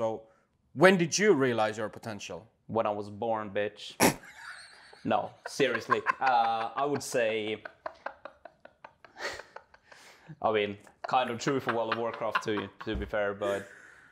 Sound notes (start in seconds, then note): 5.4 laughs; 7.7 continues laughing